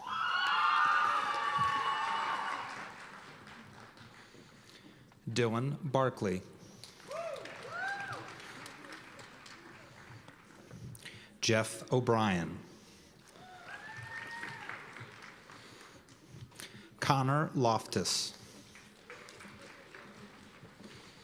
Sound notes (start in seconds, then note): 0.0 cheers and applause; 6.9 cheers and applause; 13.2 cheers and applause; 18.4 applause